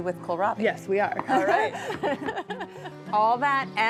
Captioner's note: laughs